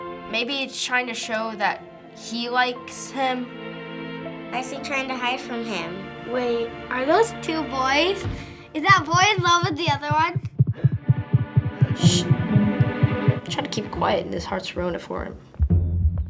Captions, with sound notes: - Maybe it's trying to show that he likes him. - Why's he trying to hide from him? - Wait, are those two boys? Is that boy in love with the other one? (heart beating) (shushing) - Tried to keep quiet and his heart's ruined it for him.